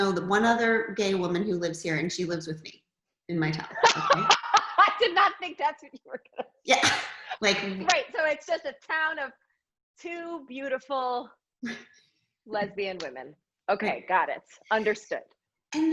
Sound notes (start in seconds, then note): 3.8 laughs